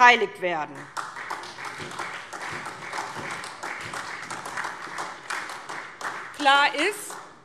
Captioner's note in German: Beifall SPD